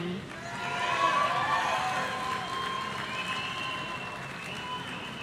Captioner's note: audience cheering